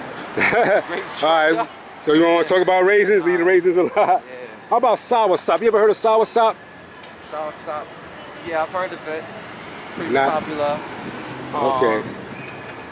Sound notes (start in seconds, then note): 0.4 laughs; 3.8 laughs